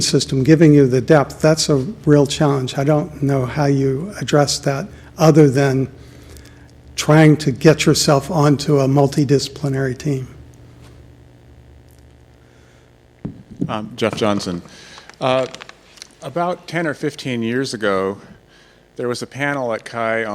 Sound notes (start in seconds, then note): 14.1 voiceover